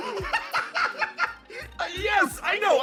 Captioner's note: laugh